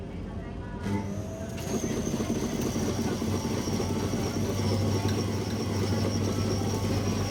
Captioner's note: probably the sound of coffee beans being crushed